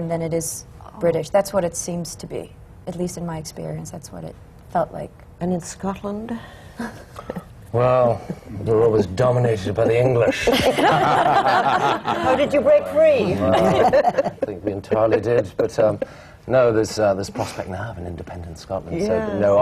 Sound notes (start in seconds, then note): 9.6 laughter